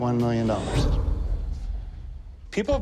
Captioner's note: whoosh